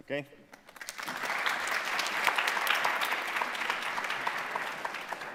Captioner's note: audience applauding